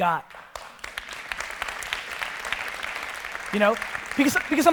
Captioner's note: audience applause